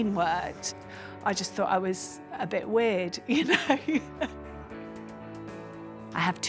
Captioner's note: laughs